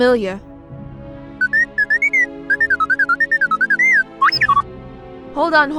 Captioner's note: t3-m4 beeps